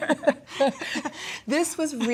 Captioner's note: both laughing